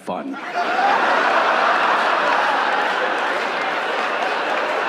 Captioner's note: audience laughing